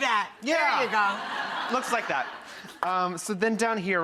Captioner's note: laughing